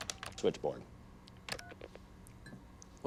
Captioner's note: beeps